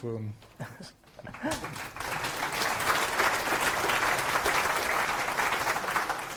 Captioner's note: applause